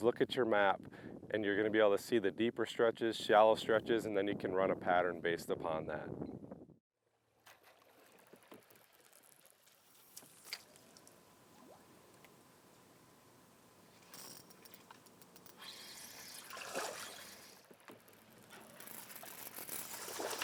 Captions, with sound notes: is look at your map, and you're gonna be able to see the deeper stretches, shallow stretches, and then you can run a pattern based upon that. (reel whizzes)